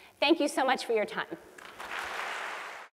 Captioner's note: applause